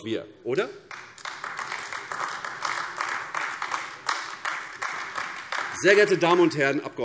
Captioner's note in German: Beifall AfD